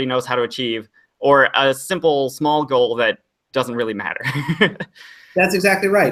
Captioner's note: laughs